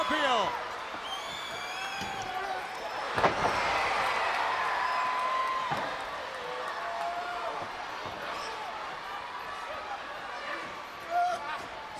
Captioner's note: crowd chatter